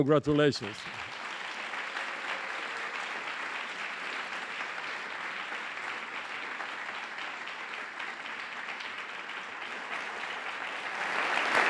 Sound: applause

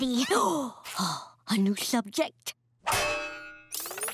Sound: gasping

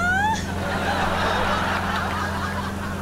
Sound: laughing

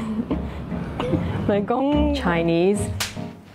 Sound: in Cantonese

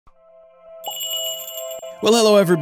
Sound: magical jingle

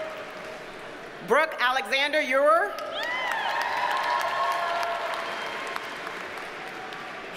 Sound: audience cheers and applauds

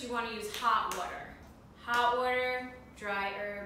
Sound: none

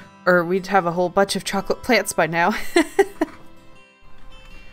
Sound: laughs

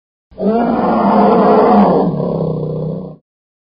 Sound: bear roaring

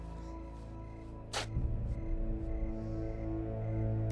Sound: tape rustling

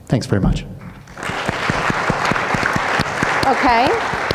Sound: audience clapping

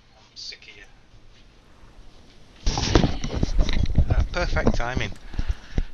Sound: headphones being roughly picked up and placed on head

